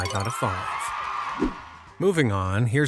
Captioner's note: crowd cheering and applause